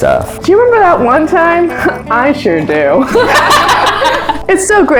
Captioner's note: laughter